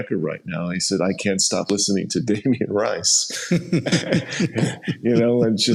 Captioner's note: laughs